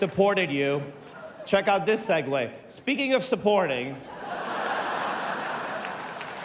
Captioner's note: laughter